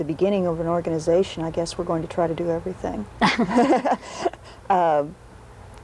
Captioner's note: laughs